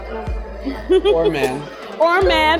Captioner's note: laughs